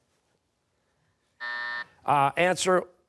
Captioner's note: buzzer